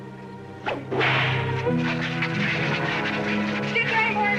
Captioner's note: cracking whip